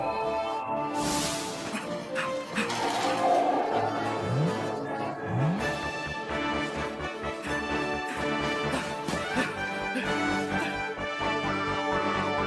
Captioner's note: Doctor Hughly pants